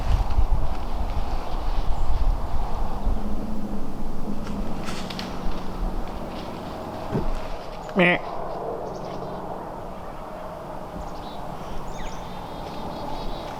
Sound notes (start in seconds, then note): 8.2 doe bleating; 10.0 birds chirping